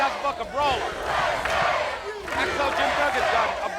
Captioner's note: crowd chants "USA"